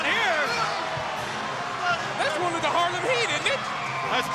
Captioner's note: crowd cheering